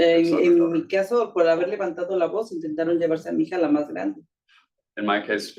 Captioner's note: speaking Spanish